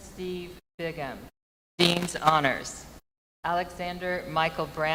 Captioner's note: names being called